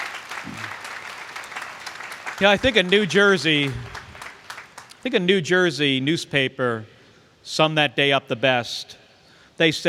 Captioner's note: applause